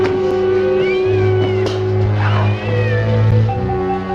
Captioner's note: cat Meowing